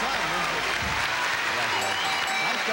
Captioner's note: ding dong ding dong